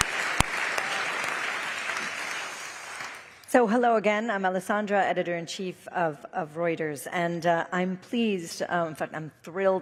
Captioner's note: applause